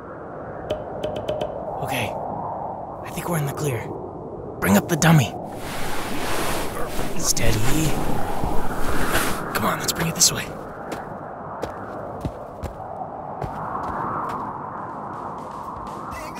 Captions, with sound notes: [whispering] Joe: Okay, I think we're in the clear. Bring up the dummy! Steady! Come on, let's bring it this way.